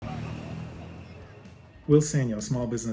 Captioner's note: city street sounds